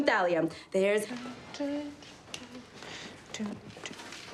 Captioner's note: hums